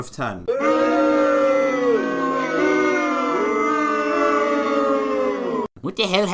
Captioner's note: booing